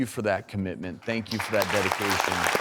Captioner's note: applause